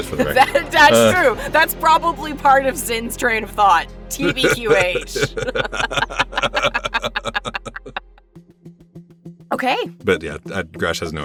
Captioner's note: laugh